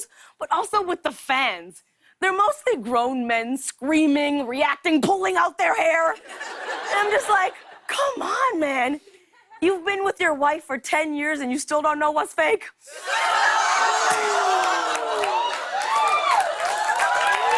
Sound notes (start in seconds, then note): 12.9 audience groaning, laughing; 15.3 cheers and applause